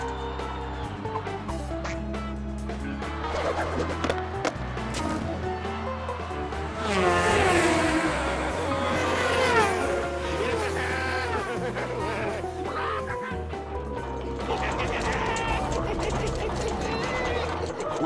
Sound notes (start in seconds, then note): 14.2 laughing